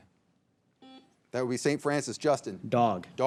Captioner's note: signal beeps